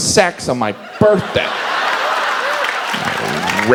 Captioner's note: audience laughs